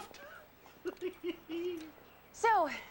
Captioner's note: laughs